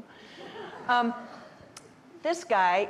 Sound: audience laughing

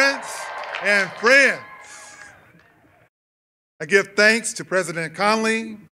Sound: cheers and applause

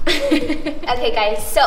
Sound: laughs

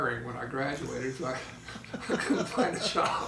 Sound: laughing

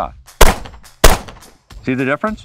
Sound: gun popping

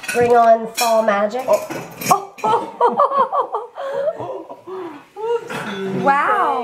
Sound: laughs

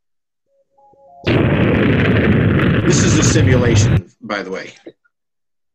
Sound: rocket noise

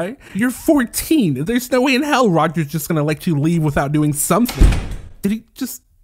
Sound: door Shuts

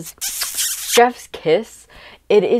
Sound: chef’s kiss; kiss sound

